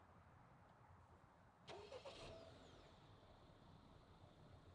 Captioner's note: engine starts